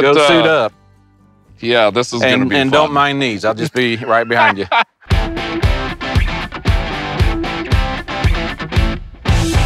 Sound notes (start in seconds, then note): 5.0 rock music; 5.2 laughs